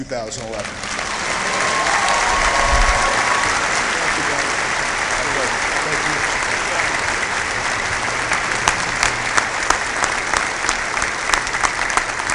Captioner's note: cheering